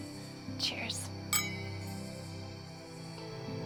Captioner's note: glasses clink